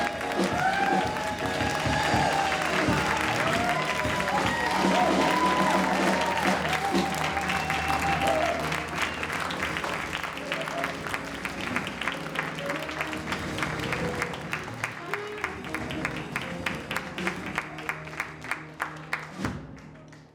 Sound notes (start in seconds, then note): 0.2 audience cheering; 7.4 audience member whistling